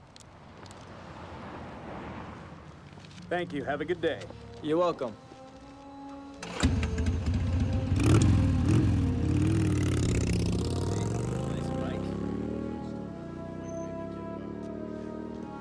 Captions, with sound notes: - Thank you. Have a good day. - You're welcome. (engine revving) - Nice bike. (foreboding music)